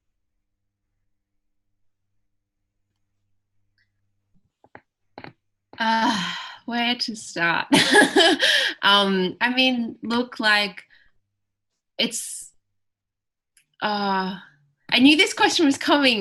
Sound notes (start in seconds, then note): 7.8 laughs; 12.4 sighs